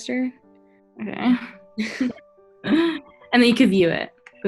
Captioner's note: laughs